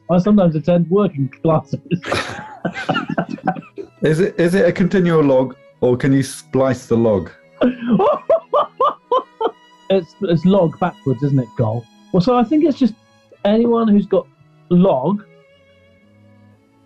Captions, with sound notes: I sometimes attend working classes! [LAUGHING] Is it a continual log, or can you splice the log? [HOOTS OF LAUGHTER] It's "log" backwards, isn't it, "gol"? So, I think it's just... anyone who's got "log"...